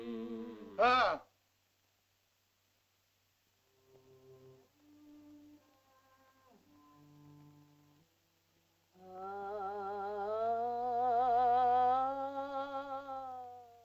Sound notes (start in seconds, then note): 0.0 Loana and caveman hum; 0.7 Tumak grunts; 3.6 soft music; 8.9 sings